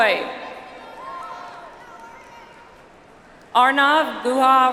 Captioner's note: audience applauds